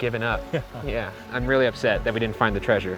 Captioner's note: chuckles